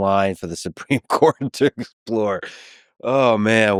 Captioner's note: laughs